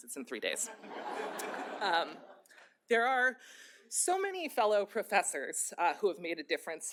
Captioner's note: laughter